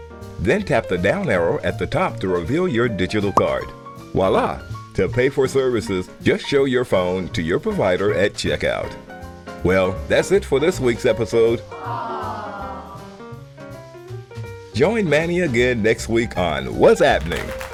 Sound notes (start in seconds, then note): 11.7 audience awwwwwwwws; 17.0 audience applause